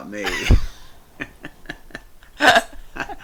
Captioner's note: both laugh